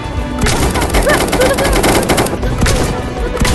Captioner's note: chaotic rushing